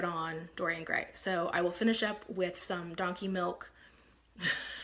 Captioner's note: laughs